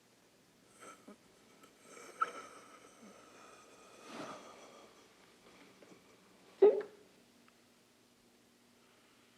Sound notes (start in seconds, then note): 6.6 hiccups